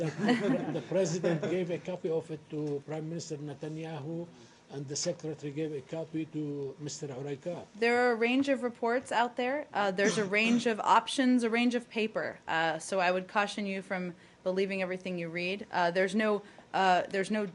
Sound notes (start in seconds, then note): 0.0 laughter